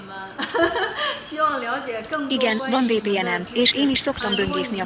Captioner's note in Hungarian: nevetés